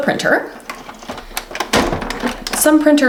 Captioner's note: plaster printer pieces clank